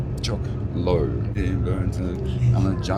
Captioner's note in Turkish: Ladybird mırıldanıyor